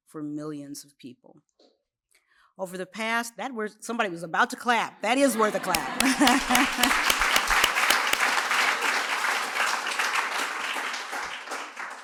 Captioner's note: laughs